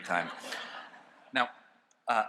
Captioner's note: laughter